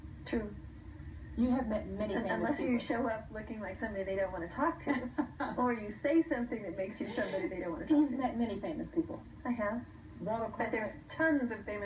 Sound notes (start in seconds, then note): 4.8 laughter